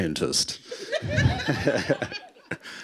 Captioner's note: laughter